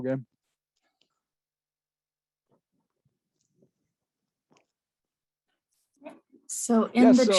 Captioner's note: pause